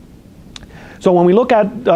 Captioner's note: lip smacks